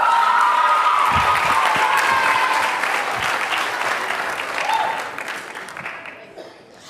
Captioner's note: cheers and applause